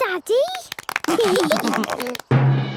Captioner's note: clapping, laughing